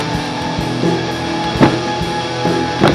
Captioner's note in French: Coup contre la porte